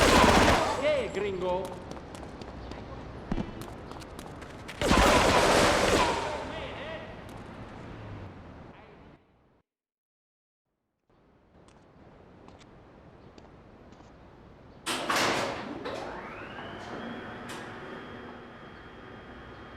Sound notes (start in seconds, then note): 0.0 gun firing; 4.7 gun firing; 10.3 plane engine roaring